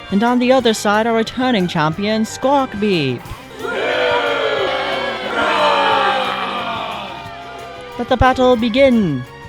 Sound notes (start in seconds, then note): 3.4 crowd cheers